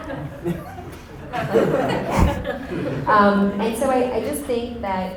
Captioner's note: audience laughter